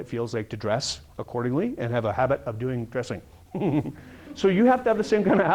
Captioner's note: chuckle